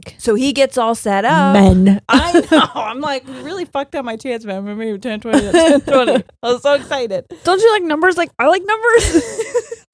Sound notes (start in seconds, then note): 5.4 laughing